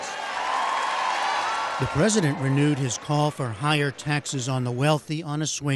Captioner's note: cheering and applause